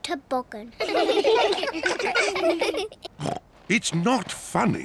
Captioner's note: all laugh; snorts